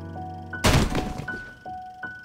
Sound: crashing noise

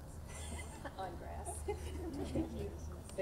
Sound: laughs

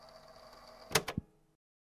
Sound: click

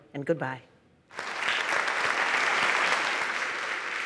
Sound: applause

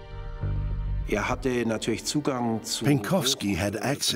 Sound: speaking German

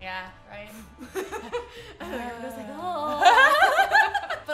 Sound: both laughing

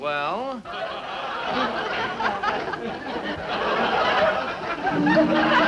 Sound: laughter; chorus humming funeral tune

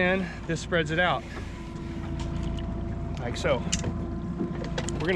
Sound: winch motor running

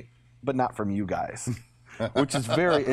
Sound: laughs

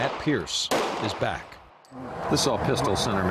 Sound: gunfire

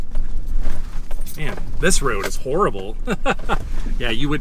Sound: laughs

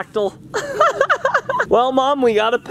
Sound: laughing

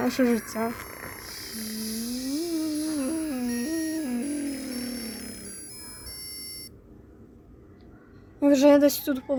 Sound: noises of the street continue

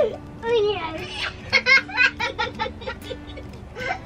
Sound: giggles; giggling

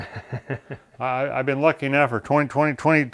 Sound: chuckles

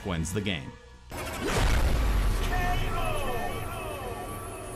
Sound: booming sound effect

